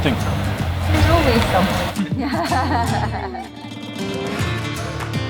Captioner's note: laughter